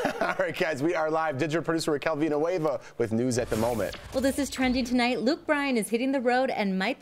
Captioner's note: laughter